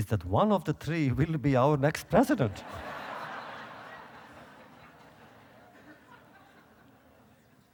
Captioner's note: audience laughter